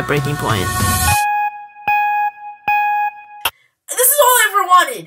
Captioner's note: timer beeps